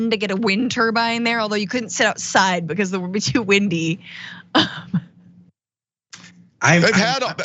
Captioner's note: laugh